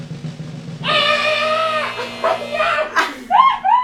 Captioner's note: buzzer buzzing